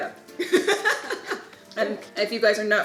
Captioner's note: laughing